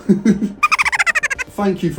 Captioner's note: high pitched laughing